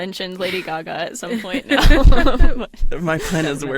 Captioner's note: everyone laughs